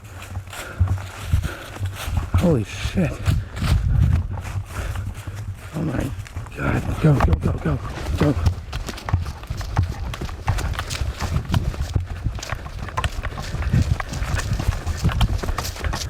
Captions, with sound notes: Holy shit. Oh my God. Go, go go, go. (panicked footsteps running)